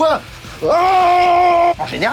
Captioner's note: infuriated scream